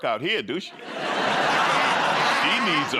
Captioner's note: laughter